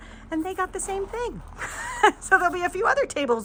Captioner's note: laughs